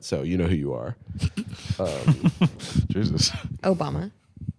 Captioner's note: laughing